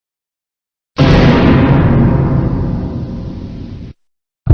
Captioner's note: GoAnimate/Vyond Scary Sound Effect